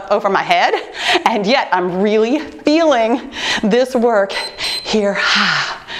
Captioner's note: timer beeps